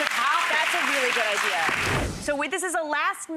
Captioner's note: applause